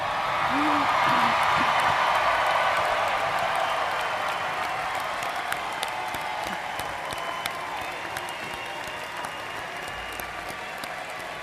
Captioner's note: applause